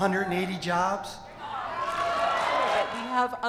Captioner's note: crowd shouting